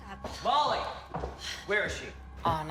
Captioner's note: Kimberly sighs